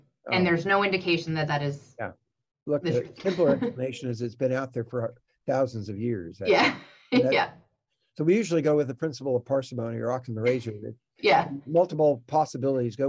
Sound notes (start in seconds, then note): 5.5 laughing